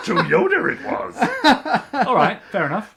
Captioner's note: laughs